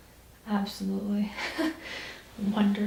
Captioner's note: laughs